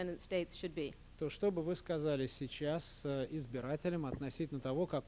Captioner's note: non-english speech